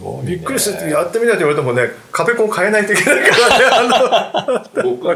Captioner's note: laughing